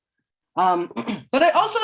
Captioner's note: clears throat